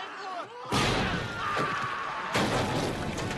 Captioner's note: dying screams